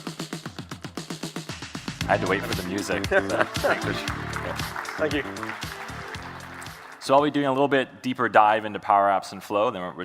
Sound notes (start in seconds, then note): 1.6 upbeat music; 2.1 audience applauding; 2.9 laughing